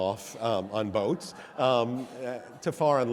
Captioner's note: audience laughs